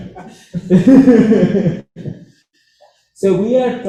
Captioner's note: laughter